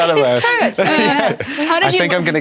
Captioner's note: overlapping chatter